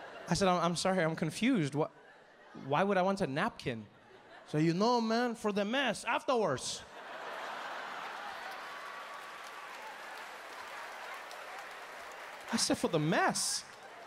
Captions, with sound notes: I said, "I'm sorry, I'm confused." "Why would I want a napkin?" "You know, man, for the mess afterwards." (audience laughing) (audience cheering) I said, "For the mess?"